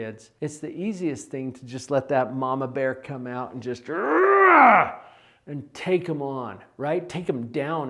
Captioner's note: roar